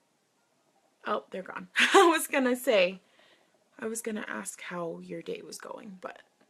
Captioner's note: laughs